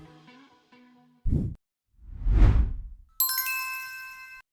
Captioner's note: logo swooshing; magical chime